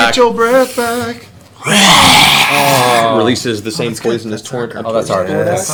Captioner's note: singing; hissing roar